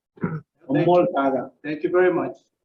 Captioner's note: speaks foreign language